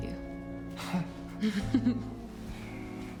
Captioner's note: laughs